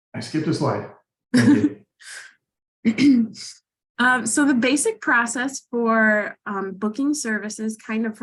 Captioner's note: laughs